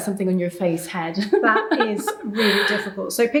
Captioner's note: laughing